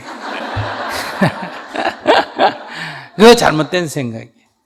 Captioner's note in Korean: 청중/스님 웃음